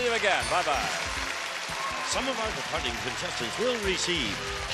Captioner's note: applause; theme music playing